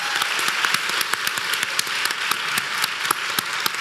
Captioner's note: applause